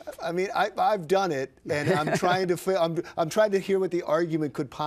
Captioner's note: laughs